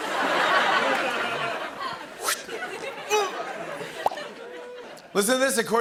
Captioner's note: laughter